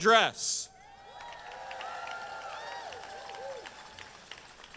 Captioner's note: crowd cheering